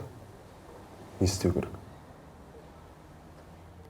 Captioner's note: in Kazakh